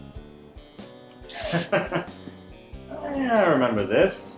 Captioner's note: Eddie laughs